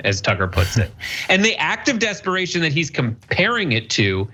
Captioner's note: laugh